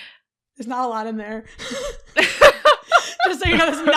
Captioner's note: laughs; laughter